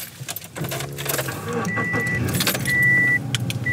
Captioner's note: car starts